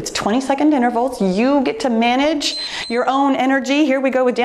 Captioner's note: timer beeps